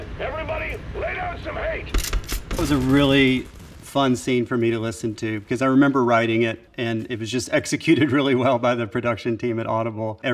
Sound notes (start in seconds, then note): 1.8 guns shoots; 1.9 guns clicks